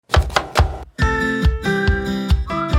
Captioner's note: chopping onions; bright upbeat intro music